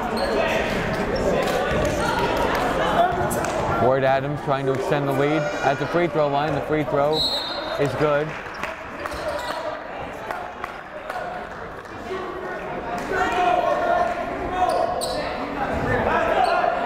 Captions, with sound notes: (yelling) Ward-Adams trying to extend the lead at the free throw the free throw is good. (clapping) (yelling)